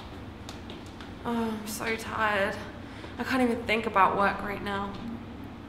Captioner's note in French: Soupire